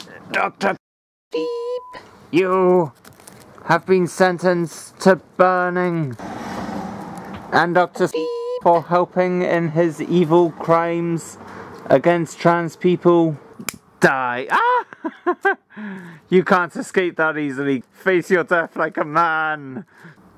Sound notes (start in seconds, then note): 14.5 laughs